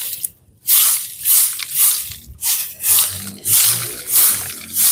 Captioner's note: sweeping